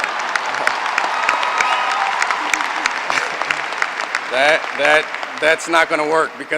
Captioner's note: applause